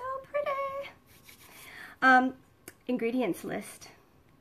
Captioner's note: hands rubbing